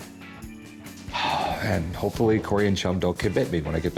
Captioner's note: sighs